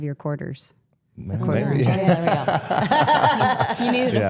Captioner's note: all laughing